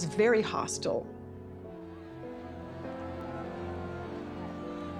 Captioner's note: crowd shouting